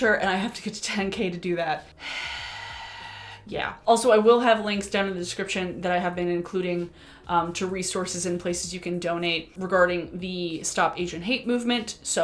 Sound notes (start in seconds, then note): 2.0 sigh